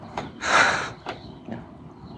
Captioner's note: laughs